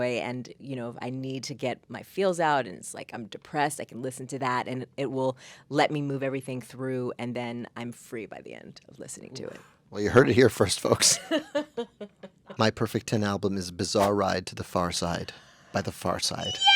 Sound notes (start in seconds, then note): 11.3 Eisa laughing